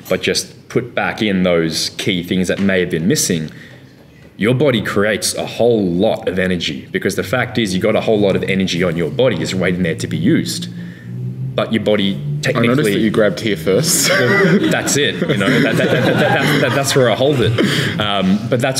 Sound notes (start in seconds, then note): 16.2 laughing